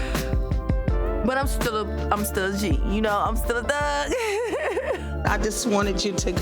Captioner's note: laughs